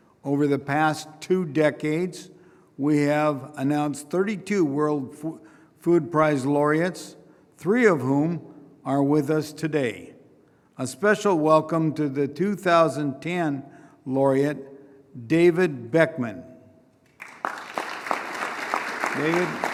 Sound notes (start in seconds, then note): 17.0 applause